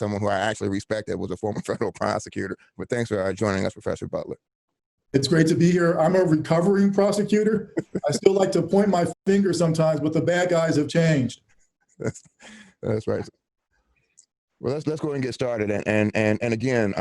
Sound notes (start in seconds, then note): 7.7 laughter